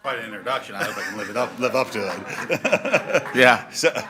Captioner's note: laugh